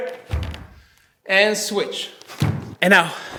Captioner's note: snapping